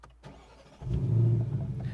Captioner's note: engine starts